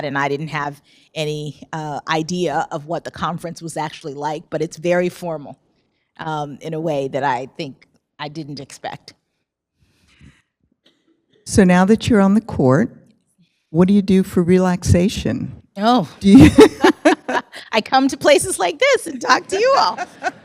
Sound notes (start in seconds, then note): 16.3 laughter; 19.5 laughs